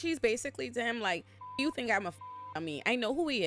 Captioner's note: beep